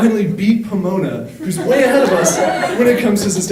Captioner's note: audience laughing